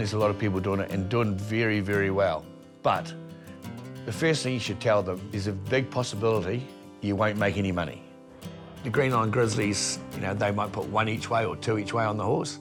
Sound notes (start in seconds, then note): none